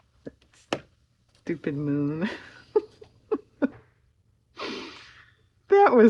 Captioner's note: laughs